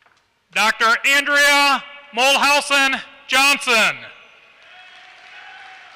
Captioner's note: applause